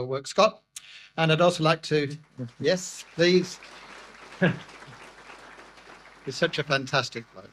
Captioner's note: audience applause